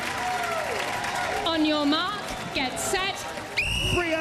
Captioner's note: whistle blows